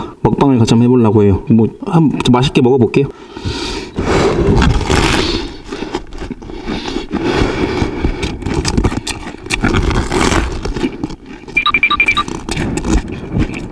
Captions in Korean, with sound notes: 먹방을 같이 해보려고해요 뭐..함.. 맛있게 먹어볼게요 (들숨) (날숨) 와작